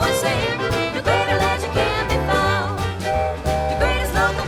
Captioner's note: whistle toots!